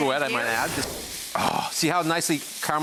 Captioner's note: air whooshing